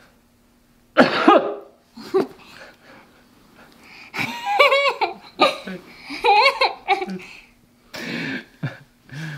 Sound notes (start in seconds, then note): 0.9 coughing; 4.3 laughing